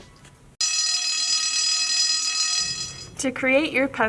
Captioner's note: school bell ringing